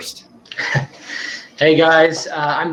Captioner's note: person chuckles